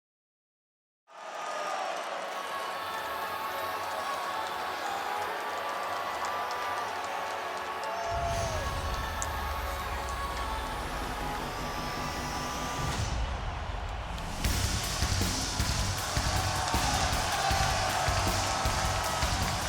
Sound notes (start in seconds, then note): 1.4 crowd cheers; 3.1 ethereal music; 3.1 vocal harmony; 15.4 rock music